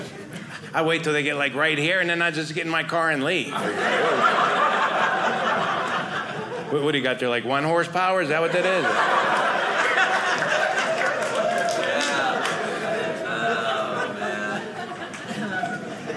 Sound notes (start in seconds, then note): 3.5 audience laughing; 8.2 audience laughing